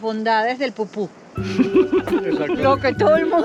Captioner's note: laughs